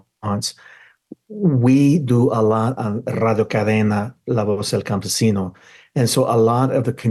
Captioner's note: speaks in foreign language